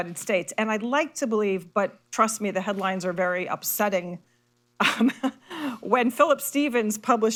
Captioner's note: laughs